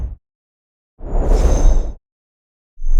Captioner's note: whoosh